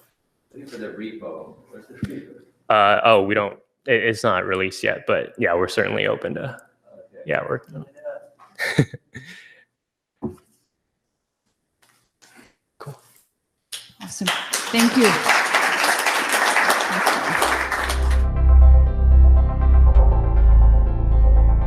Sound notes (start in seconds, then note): 15.3 applause